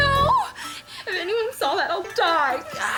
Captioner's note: sobbing